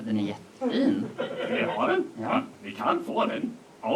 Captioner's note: laughter